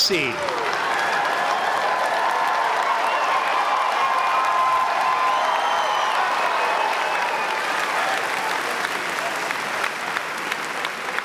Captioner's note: applause